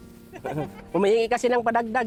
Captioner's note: laughs